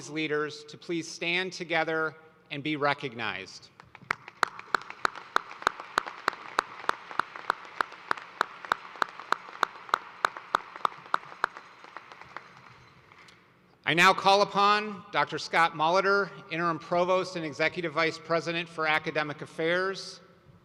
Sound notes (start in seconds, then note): 8.6 applause